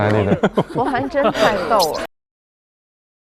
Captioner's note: laughs